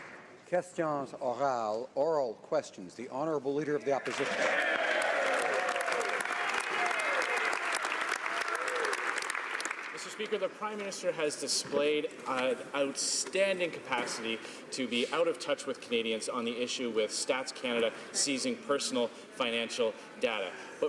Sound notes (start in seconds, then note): 4.6 speaking French; 7.6 some Applause